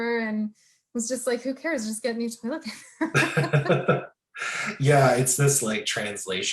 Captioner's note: both laughing